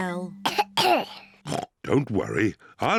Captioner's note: coughs; oinks